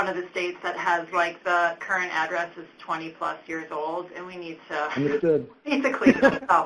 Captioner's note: laughs; laughter